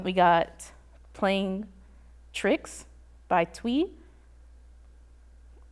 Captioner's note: none